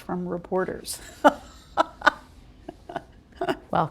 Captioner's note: laughter